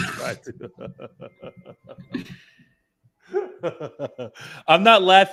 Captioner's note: laughter